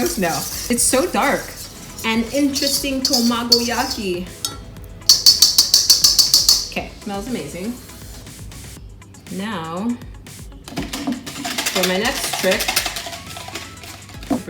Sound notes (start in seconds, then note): 5.1 pan clanking; 10.7 eggs whisking